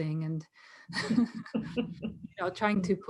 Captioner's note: laughs